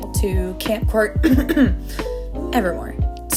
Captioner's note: clears throat